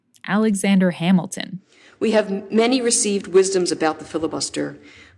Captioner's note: soundbite of archived recording